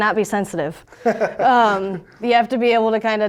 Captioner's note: laughs